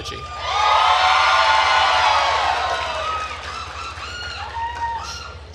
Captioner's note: attendees cheering and applauding